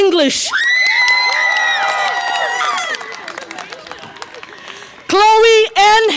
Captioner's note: audience applause and cheer